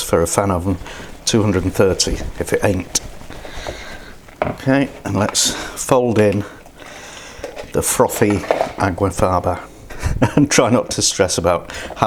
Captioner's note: laughs